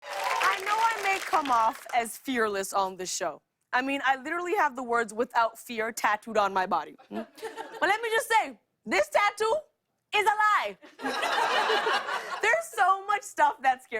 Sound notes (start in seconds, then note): 10.8 laughter